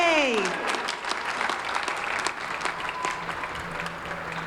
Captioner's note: audience clapping